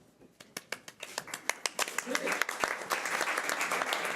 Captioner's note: audience applause